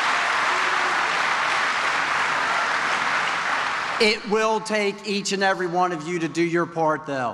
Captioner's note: applause